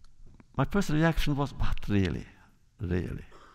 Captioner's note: none